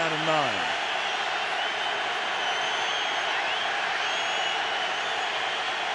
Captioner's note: crowd cheering